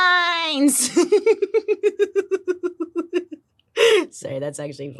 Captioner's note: laughs